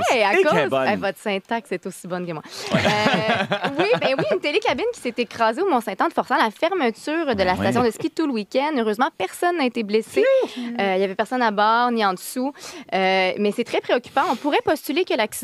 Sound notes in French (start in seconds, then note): 2.6 rires